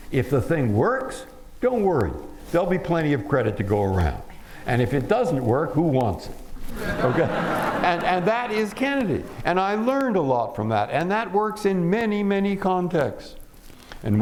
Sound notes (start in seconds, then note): 6.7 laughter